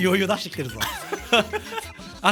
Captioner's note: giggle